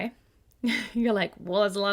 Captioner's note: laughs